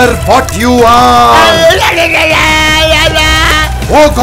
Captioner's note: Screaming